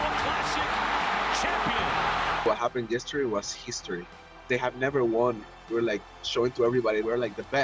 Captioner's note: cheers and Applause